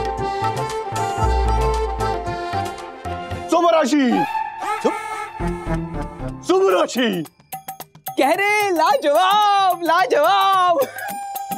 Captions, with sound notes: [speaks Japanese] [speaks Japanese] He's saying, wonderful!